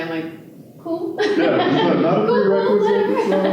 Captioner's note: laughter